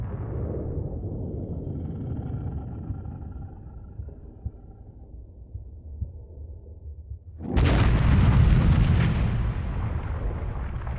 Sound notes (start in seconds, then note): 0.1 slow whooshing; 7.2 crash echoes